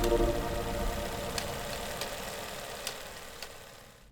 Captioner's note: projector whirring